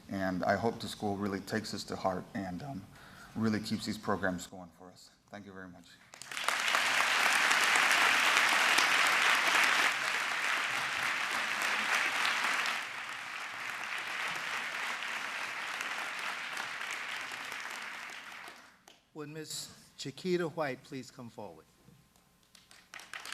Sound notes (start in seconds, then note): 6.0 applause; 22.5 applause